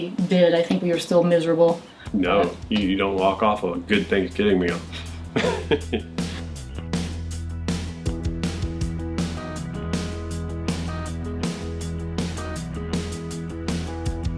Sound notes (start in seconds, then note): 4.8 laughs; 6.7 upbeat music